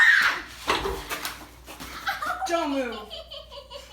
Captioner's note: Cobra screams